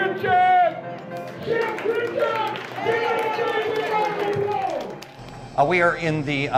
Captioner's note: crowd clapping and cheering